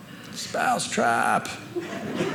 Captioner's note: audience laughing